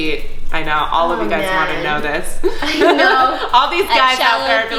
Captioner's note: laughs